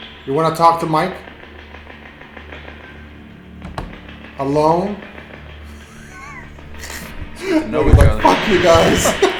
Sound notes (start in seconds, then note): 5.6 laughs